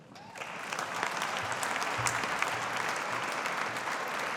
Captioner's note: audience applauding